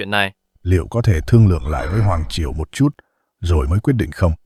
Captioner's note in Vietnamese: hắng giọng